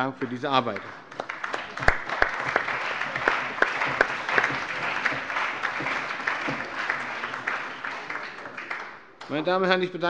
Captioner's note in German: Lebhafter Beifall